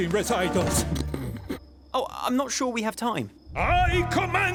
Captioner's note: chuckling